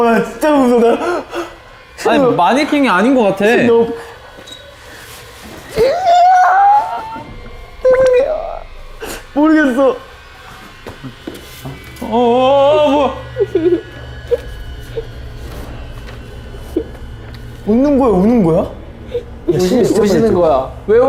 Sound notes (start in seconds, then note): 5.7 aaagh; 12.0 the student suddenly crying